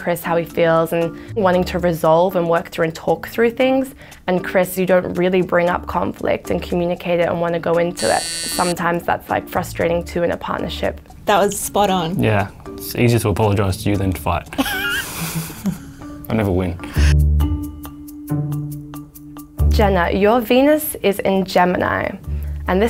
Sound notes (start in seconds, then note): 8.0 buzzer sounding; 14.5 both laughing; 16.9 upbeat music